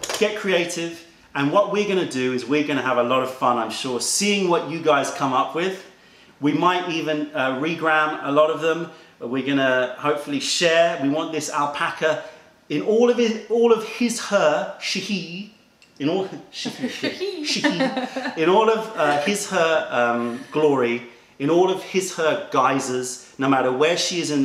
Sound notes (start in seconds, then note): 16.8 laughter